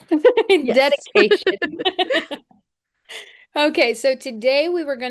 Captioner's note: laughing